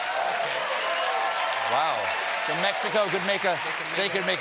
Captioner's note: cheers and applause